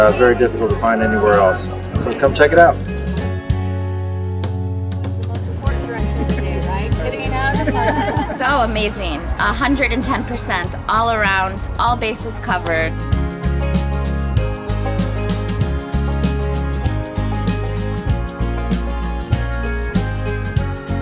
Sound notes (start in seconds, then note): 7.7 group laughs; 13.6 upbeat guitar music